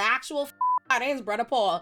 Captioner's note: beep